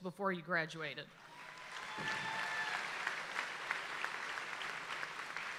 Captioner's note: audience applauds and cheers